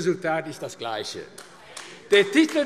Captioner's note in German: Beifall AfD